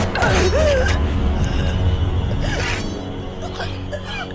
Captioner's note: Rebecca gasps